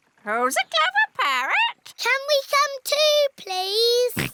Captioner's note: snorts